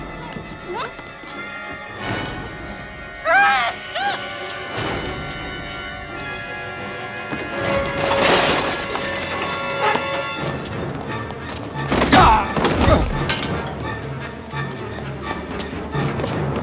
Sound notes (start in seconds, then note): 7.6 clanking; 11.4 grunting